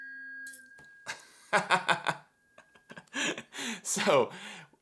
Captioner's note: laughing